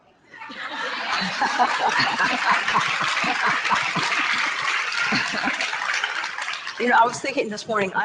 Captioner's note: audience laughter and applause